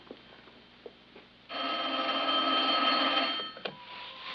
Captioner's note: ringing continues